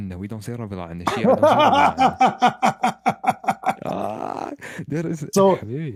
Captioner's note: Ketawa